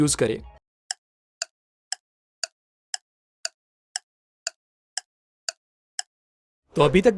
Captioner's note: ticking